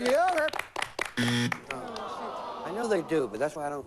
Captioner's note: buzz